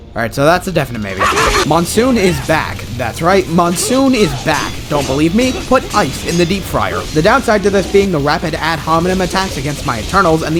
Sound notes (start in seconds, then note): 1.1 hahahaha